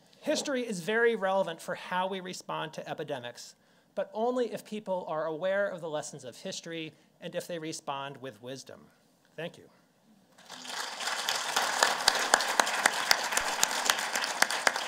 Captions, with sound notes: History is very relevant for how we respond to epidemics, but only if people are aware of the lessons of history, and if they respond with wisdom. Thank you. (applause)